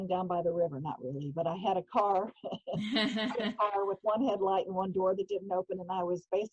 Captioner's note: laughing